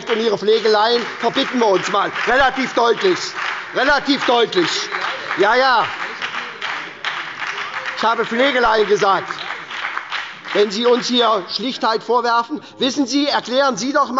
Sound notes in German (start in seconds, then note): 4.9 Beifall bei der SPD und der FDP